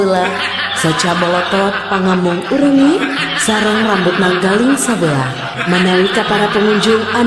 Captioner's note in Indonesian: tertawa